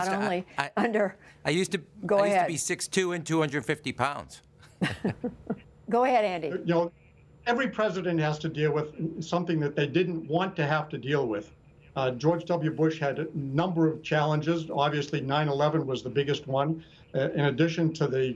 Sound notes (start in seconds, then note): 4.7 laughter